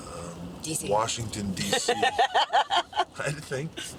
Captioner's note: laugh